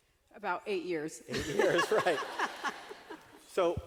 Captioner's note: laughter